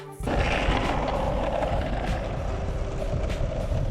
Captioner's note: wheels rolling